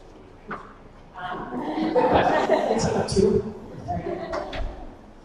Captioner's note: laughter